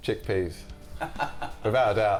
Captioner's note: laughs